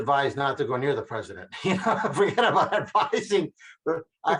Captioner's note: laughing